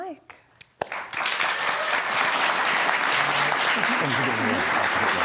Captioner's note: audience clapping